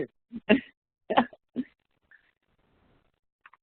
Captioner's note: chuckles